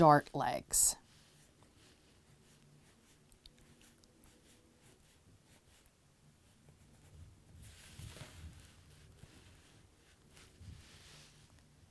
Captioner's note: no significant sound